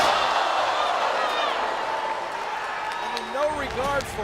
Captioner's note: crowd gasps